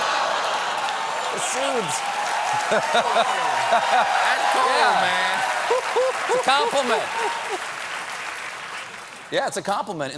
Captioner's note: laughter